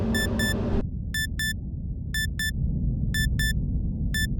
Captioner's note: machine beeping